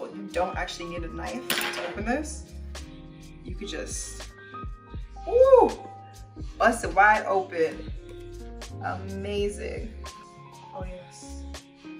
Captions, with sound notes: you don't actually need a knife to open this. You could just [gleeful sigh] bust it wide open! Amazing! Oh yes.